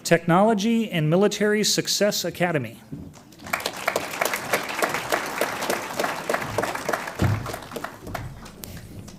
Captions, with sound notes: Technology and Military Success Academy. (audience applauds)